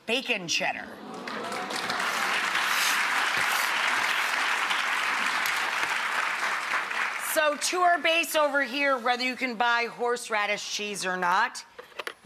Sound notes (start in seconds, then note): 1.0 applause